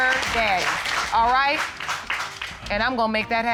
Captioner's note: audience applauds